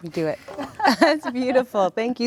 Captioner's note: laughs